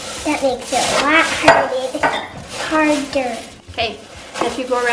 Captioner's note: glass clinking